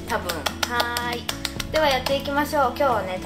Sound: clap

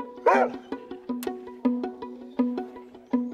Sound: dog barks

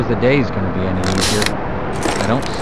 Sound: Compound Bow Sounds

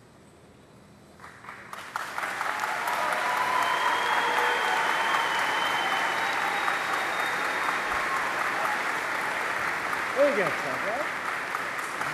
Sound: applause

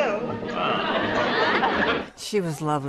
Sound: laughter

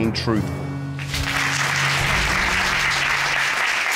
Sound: applause

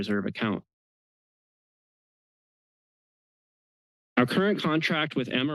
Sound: pause

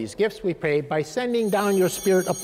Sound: chimes ringing

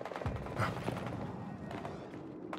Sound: grunts

